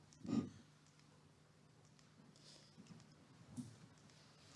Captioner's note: clicker clicking